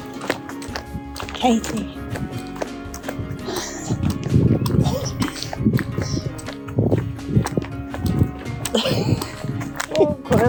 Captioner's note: laughter